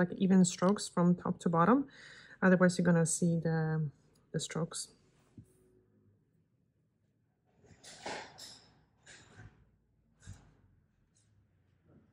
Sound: silence

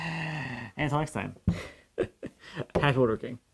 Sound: laughs

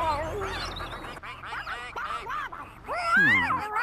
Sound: ducks Quacking

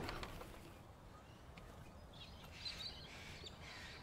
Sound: birds tweeting

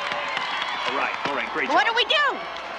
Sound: cheerleaders clapping

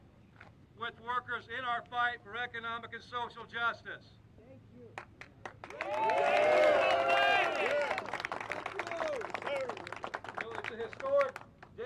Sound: applause

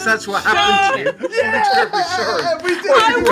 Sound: all celebrating

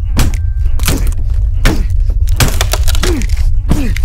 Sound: wood and plaster snap

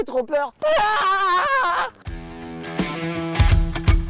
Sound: screaming; screaming again

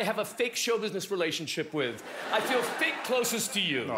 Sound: laughter

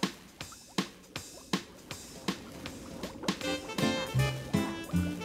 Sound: water bubbling; lively upbeat music

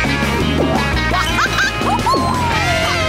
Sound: laughing

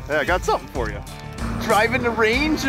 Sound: voiceover

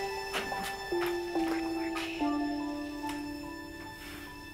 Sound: whispers

